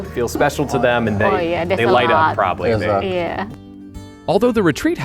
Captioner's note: all chattering